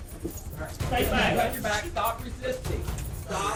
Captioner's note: indistinct chatter